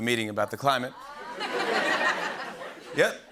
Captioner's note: laughter